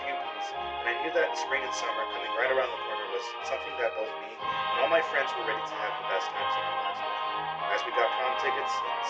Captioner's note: distorted audio; distorted audio